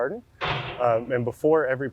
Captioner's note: excavator arm crashing